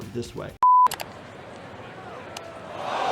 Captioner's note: beep; crowd